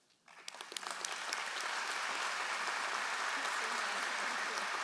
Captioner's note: all applauding